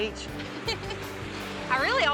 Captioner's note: giggling